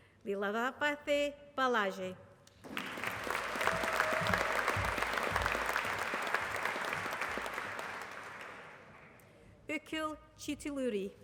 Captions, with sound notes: Leelavathi Balaji. [APPLAUSE] Akhil Chithuluri.